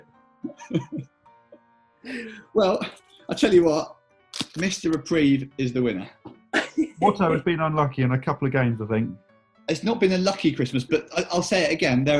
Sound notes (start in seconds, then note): 0.4 chuckling; 6.5 giggling